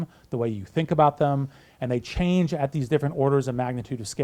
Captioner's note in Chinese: none